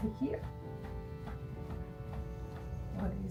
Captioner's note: gentle piano music; hands thudding